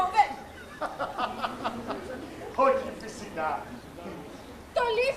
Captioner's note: γέλιο